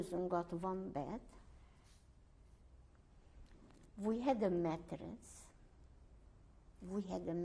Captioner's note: pauses for 3 seconds